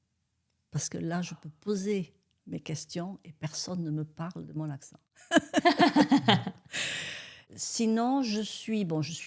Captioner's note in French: rires